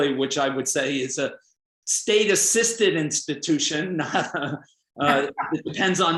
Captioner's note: laughs